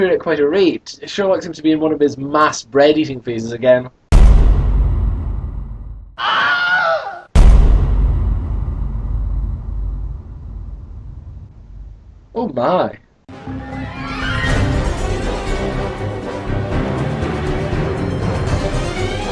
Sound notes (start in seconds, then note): 3.7 bang